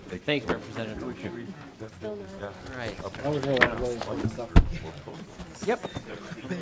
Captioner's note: laughing